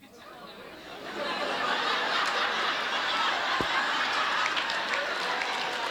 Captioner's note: audience laughs and applauds